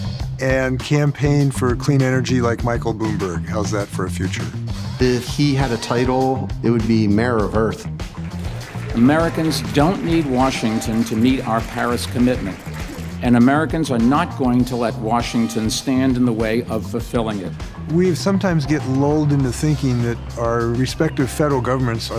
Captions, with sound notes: and campaign for clean energy like Michael Bloomberg. How's that for a future? - If he had a title it would be Mayor of Earth. (applause) - Americans don't need Washington to meet our Paris commitment. And Americans are not going to let Washington stand in the way of fulfilling it. - We sometimes get lulled into thinking that our respective federal governments